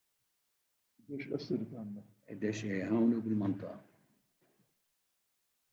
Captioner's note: speaking in foreign language